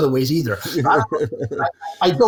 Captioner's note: laughing